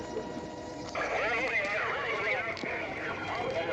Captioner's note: insects chirping; murmuring